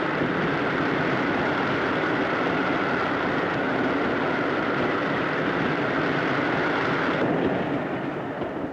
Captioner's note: train rumbling